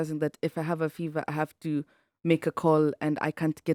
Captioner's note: none